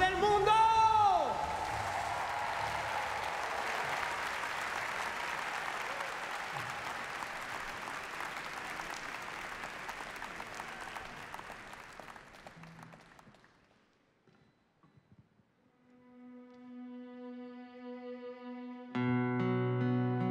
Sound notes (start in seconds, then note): 2.2 applause